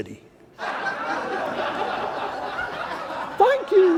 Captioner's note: laughing